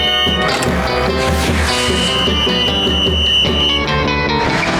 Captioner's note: whistling